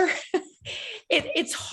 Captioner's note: chuckling